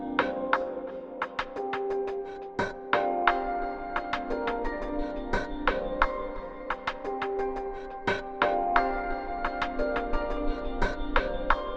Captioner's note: clapping